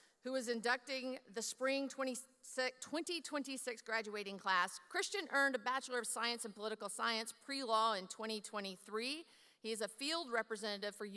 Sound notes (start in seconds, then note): none